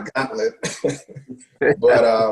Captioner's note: laughs